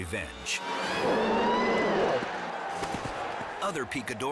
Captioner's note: bull growls